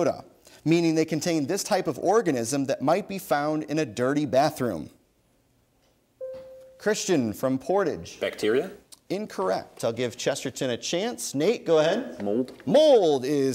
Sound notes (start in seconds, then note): 6.2 bell dings